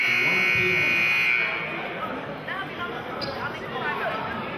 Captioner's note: buzzer sounding